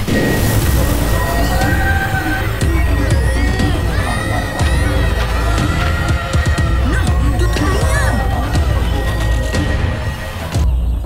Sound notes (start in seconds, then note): 0.2 off-tune scream; 1.7 whimpering; 4.2 kids screaming